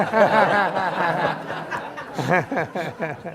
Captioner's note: laughing